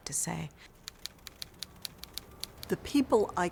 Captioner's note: letters lightly clicking